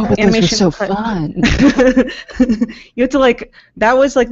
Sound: chuckles

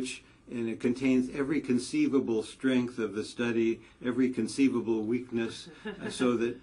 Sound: laugh

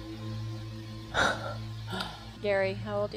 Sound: excited gasp

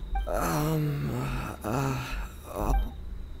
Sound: groaning

